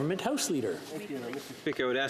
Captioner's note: speaking French